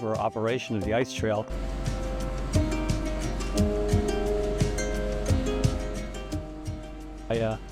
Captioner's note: whirring